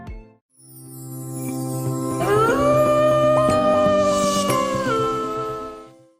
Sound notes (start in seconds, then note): 0.5 bright music; 2.2 wolf howling